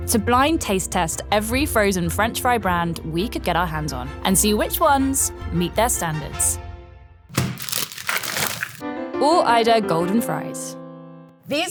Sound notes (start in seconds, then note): 7.3 fries pack thudding; 7.3 plastic crinkling